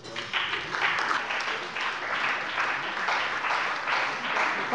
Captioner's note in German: Beifall bei dem BÜNDNIS 90/DIE GRÜNEN und der CDU